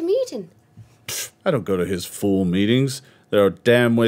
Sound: scoffs

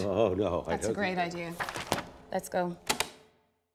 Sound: tape recorder clicks

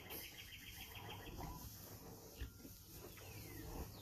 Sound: sound of rhinos eating

